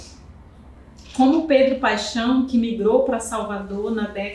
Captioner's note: speaking portuguese